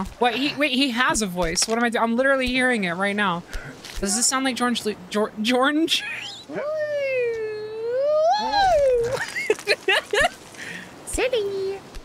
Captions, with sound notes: What, he- Wait, he has a voice. What am I do- I’m literally hearing it right now. Does this sound like Geornge Lu- Geo- Geornge? [Laughter] Wee-oo-oo! [Laughter] Silly!